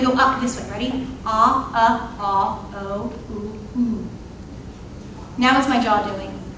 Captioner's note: imitating vowel sounds